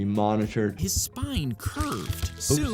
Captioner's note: bone crunching